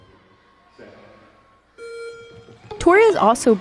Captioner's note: timer beeps